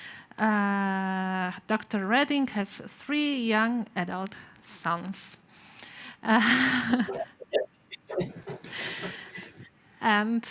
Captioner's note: laughter